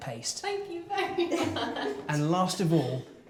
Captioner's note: laughing